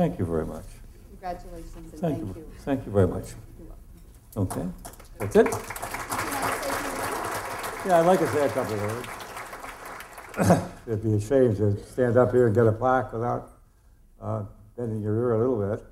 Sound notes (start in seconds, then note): 4.9 applause